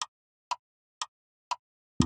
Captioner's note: clock Ticking